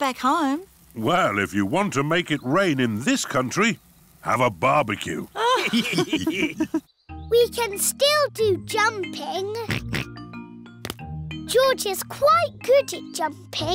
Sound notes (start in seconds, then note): 5.4 all laughing; 9.6 oinks